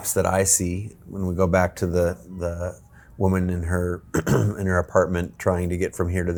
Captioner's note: clears throat